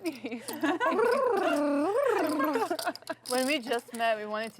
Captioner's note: laughing